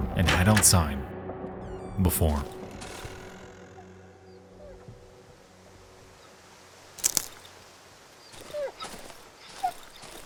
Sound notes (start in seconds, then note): 4.4 dog whimpering; 4.4 rain pattering